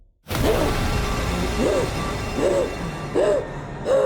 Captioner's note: gasping breaths